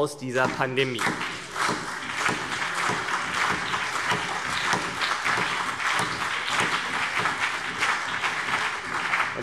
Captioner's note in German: Beifall CDU und BÜNDNIS 90/DIE GRÜNEN